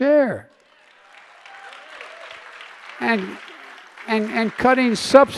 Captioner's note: applause